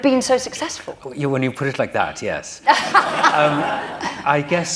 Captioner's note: laughter